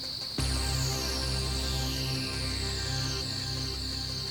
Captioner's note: crickets chirping